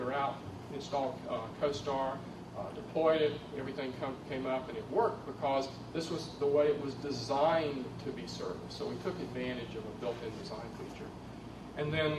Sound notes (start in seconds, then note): none